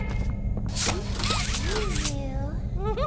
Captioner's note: door opens